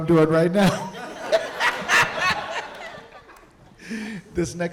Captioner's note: audience laughing